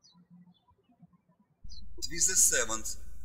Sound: birds chirping

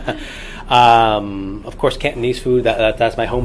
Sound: all laugh

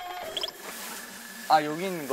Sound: rummaging

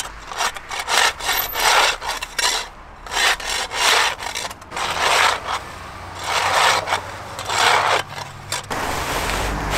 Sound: scraping sounds

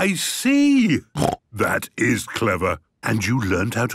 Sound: snort

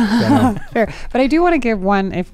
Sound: laughing

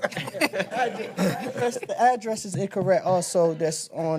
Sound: laughter

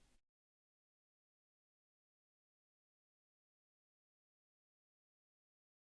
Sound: silence; silence

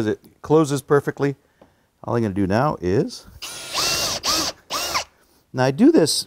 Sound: screw-gun whirs

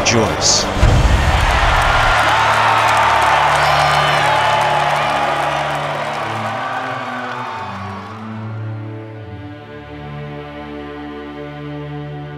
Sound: crowd cheering

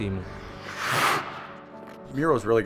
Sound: skates scrap

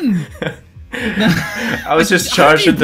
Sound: laughter

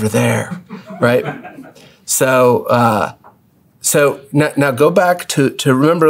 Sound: laugh

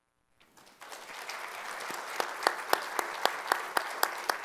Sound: audience applauding

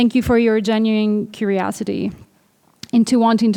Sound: none

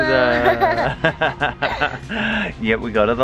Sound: laughs

